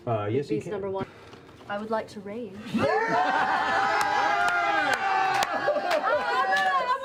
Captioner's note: cheers